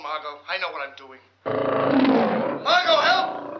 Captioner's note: lion growls